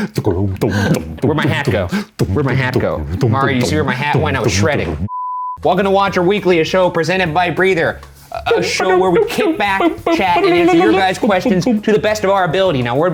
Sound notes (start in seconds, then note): 0.0 bass sounds; 5.0 beep